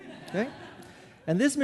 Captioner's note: audience laughing